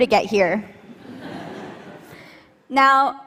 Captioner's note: laughter